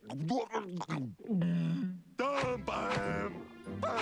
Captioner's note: munches, gulps